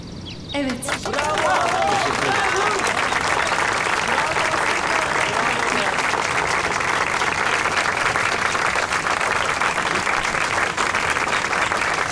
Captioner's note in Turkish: alkış sesi